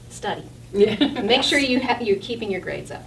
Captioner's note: all laughing